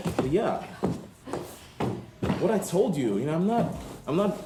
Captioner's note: stomping